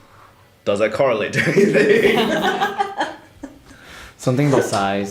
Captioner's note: laughter